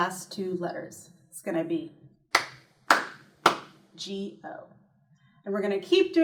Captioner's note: clap